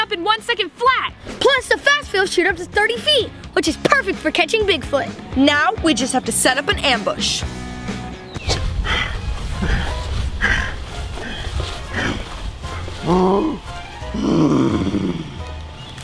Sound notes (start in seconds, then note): 8.5 grunting; 14.1 growls